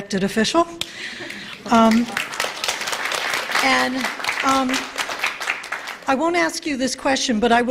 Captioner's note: applause